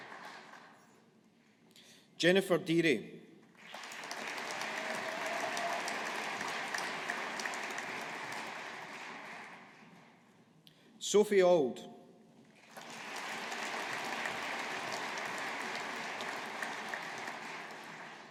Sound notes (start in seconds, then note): 3.6 audience applauding; 12.6 audience applauding